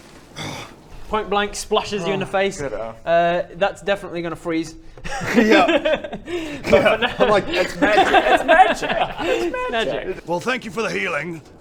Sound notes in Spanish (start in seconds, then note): 7.3 crrkkkk